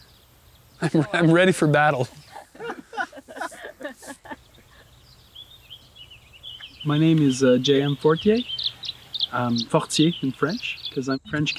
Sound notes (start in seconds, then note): 2.2 laughter